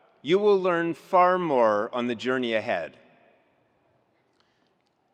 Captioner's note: none